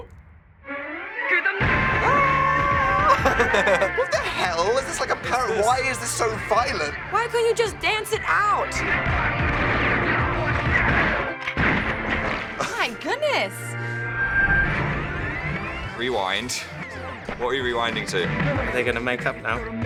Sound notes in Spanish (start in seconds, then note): 0.1 Imita a continuación se ríe; 12.2 Risas; 14.8 ruido rebobinado